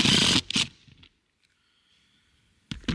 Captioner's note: drilling